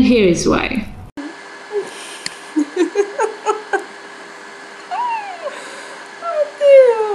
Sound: loud computer fans and giggling

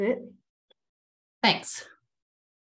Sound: silence

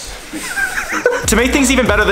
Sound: laughing

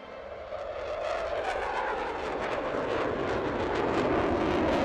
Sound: airplane engines roaring

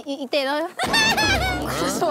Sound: hahaha

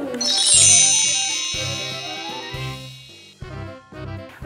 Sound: magic wand chimes

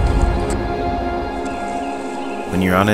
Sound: birds chirping

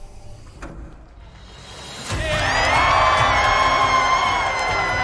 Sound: cheering

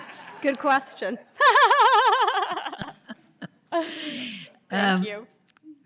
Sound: laughs

